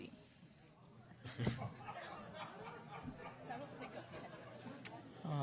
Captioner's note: audience laughing